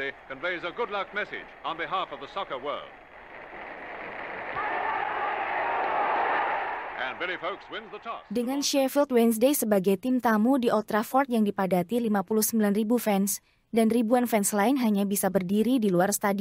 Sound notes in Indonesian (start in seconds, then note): 4.8 Tepuk tangan